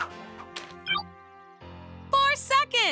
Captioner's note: copter flutters; calculator bleeps